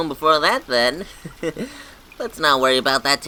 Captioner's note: chuckles